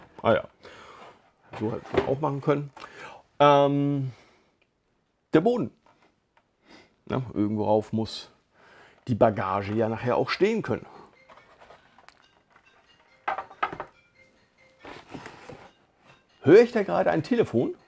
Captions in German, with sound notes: Ahja! So hätte man es auch machen können. Der Boden Irgendwo drauf muss die Bagage ja nachher auch stehen können. [Telefon klingelt] Höre ich da gerade ein Telefon?